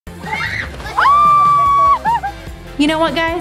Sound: screams

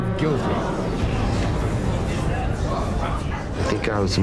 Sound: gasping

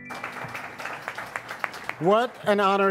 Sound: audience applauds

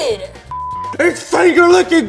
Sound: graphic beeps

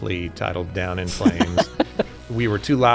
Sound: laughs

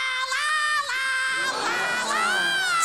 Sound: gasping

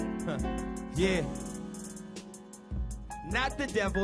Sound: sneers

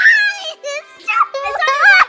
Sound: crying

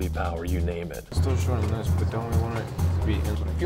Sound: background talk

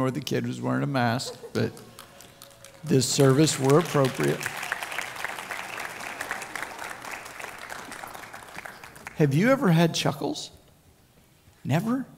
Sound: crowd Cheering

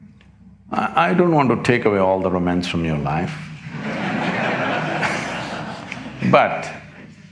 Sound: laughter

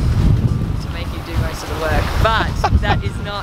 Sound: laughter

